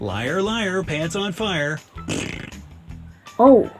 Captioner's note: blows raspberry